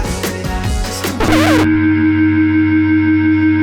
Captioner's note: upbeat rock music; electric guitar; record scratch